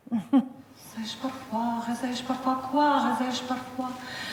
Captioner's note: speaking foreign language